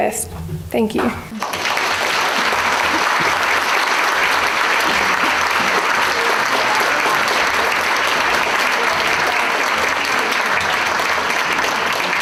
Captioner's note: audience applause